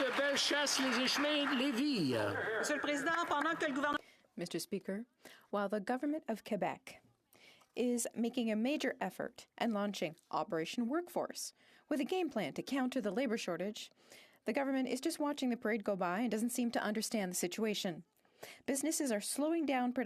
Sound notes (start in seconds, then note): 5.2 speaking French